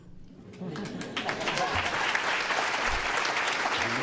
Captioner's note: applause